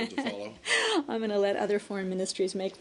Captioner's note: laughter